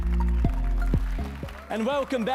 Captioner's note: applause and cheers